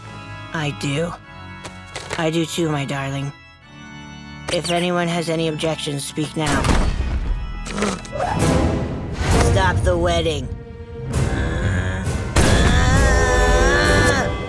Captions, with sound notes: I do. I do, too, my darling. If anyone has any objections, speak now. [gasping] Stop the wedding. [groaning]